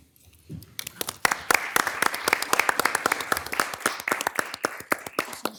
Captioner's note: audience applauding